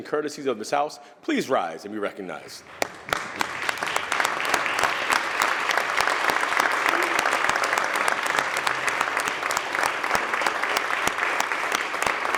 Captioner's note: applause